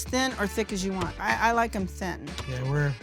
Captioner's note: dough flops